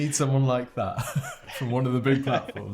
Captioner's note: laughing